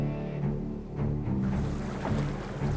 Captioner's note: water streaming; hoofbeats